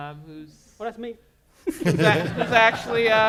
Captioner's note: laughter